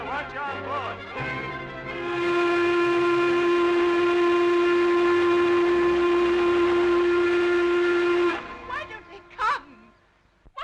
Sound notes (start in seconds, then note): 1.0 ship horn blasting